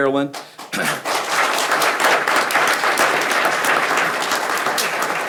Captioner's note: people clapping